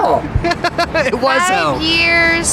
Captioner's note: laughs